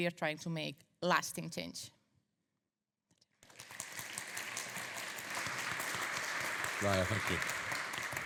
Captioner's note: audience applauding